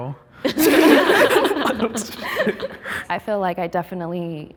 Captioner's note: group laughing